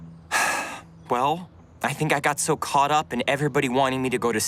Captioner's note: sighs